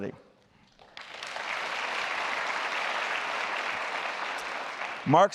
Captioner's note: applause